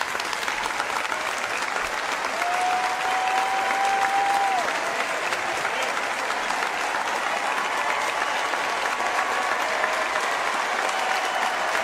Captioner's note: applause